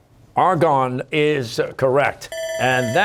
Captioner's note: bell ringing